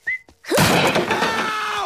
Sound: smash

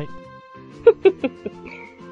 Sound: chuckles

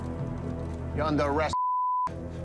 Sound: ominous music; beeps

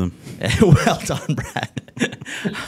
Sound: laughs

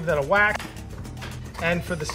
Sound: pounding garlic

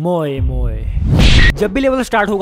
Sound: smash

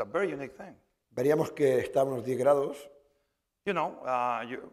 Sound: speaking spanish

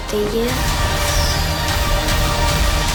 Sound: firecracker whistles

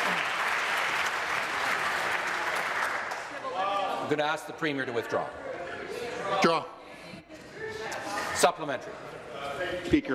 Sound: applause

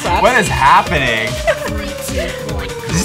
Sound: laughs

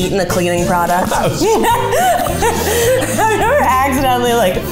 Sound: both laughing

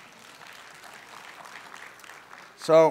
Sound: applause

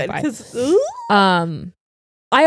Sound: squeals

